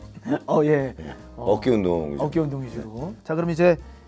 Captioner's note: haha